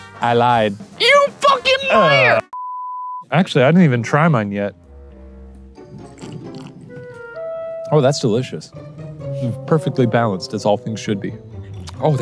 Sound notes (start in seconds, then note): 2.4 screen beeping; 4.8 gentle music